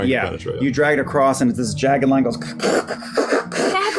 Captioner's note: scraping